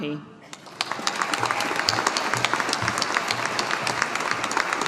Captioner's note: audience applauding